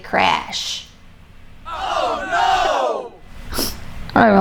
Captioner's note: group voices